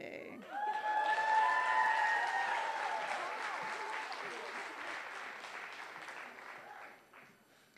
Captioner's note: applause